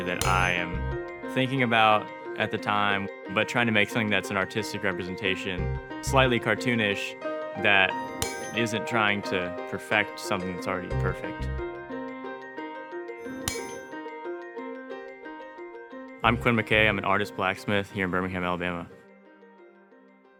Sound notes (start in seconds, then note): 8.0 metal clinking; 12.4 soft music continues; 13.2 metal clinking